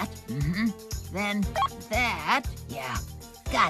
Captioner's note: beep